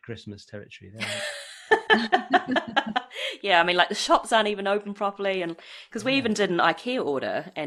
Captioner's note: laughs